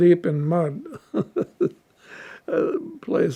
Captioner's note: laughing